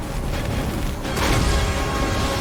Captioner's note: explosion